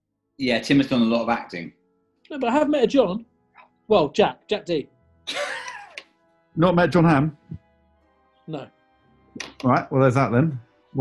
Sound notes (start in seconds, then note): 5.3 sniggering